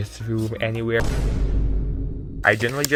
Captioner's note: boom